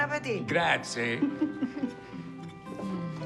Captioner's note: chuckling